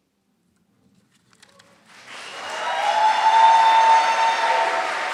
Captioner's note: applause